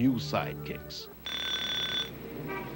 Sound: alarm clock rings

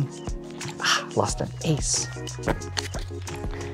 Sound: thumps cards

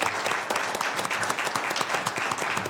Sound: applause

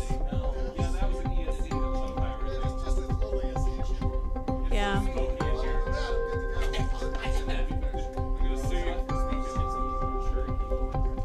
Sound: people chattering

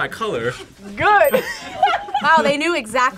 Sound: laughs

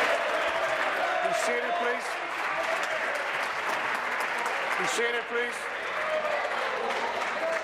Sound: applause

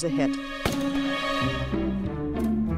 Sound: gunshot

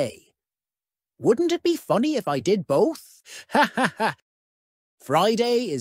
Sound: laughs

